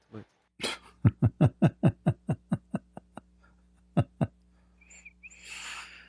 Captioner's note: Ketawa